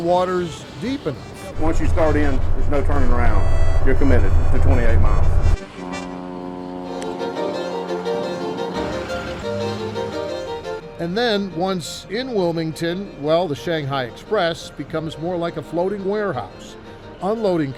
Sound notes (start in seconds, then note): 6.2 dramatic music; 6.2 horn blaring